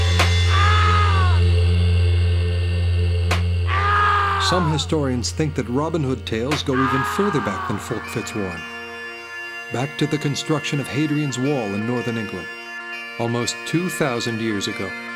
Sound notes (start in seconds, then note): 0.5 John screaming; 0.5 whip cracking